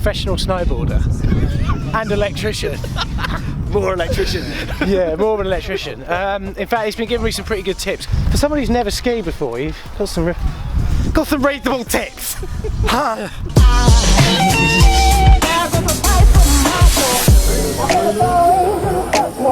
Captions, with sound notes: Professional snowboarder, and electrician. (laughs) - More electrician then. - Yeah, more of an electrician. In fact he's been giving me some pretty good tips. For someone who's never skied before you've got some real, got some reet good tips! (laughs) Ha. (club chill-out music)